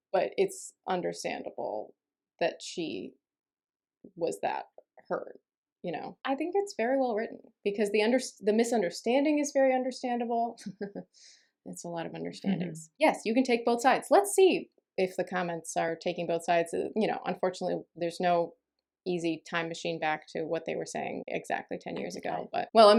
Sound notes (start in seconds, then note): 10.5 laughs at own wordplay